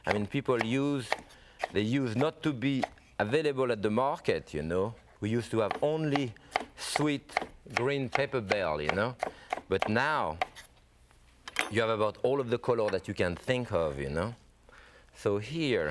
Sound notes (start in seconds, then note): none